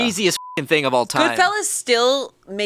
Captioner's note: beep